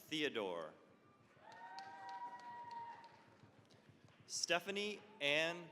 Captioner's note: cheering, applause